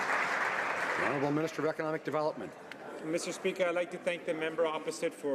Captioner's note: some Applause